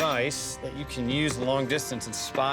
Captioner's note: none